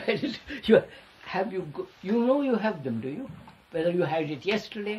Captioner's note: laughs